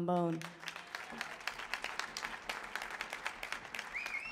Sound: audience applauds

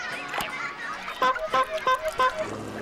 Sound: horn honking

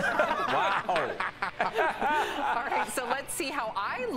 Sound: laughter

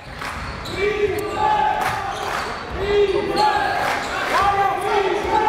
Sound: crowd chants "Defense"

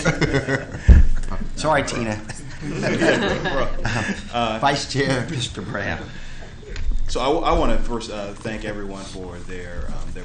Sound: laughter

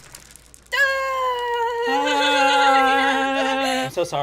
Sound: Kimmy laughs awkwardly

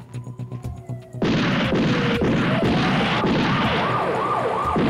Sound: gunfire

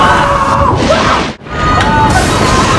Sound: more yelling; thunder

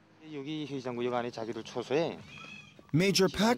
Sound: speaking in foreign language

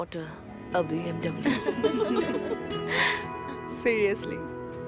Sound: laughing

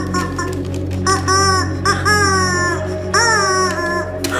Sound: honking; paper rustling

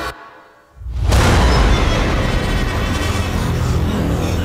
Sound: thunder cracks

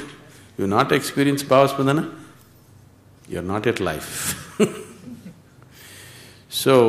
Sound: laughs

